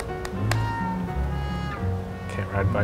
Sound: knocking sound

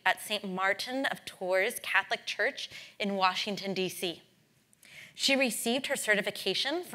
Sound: none

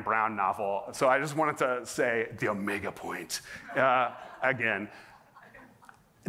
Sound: laughter

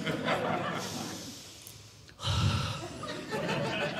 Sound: exhaling Deeply; audience Laughing; exhaling Deeply; audience Laughing

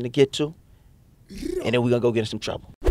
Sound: trilling

